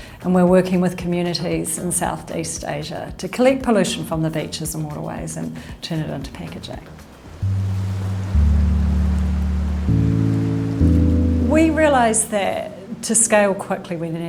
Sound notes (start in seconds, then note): 7.9 pensive music; 7.9 waves sloshing